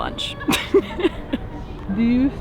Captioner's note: laughing